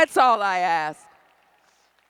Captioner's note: applause